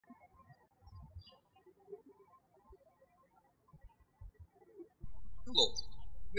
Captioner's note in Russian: птички щебечут